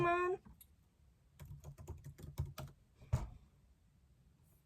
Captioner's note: keyboard clicking